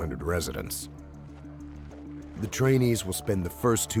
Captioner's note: voiceover